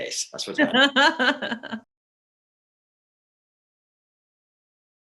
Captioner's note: laughs